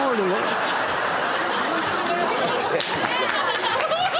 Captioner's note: laughter